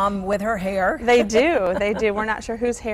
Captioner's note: laughing